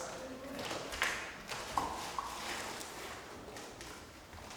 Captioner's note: indistinct conversation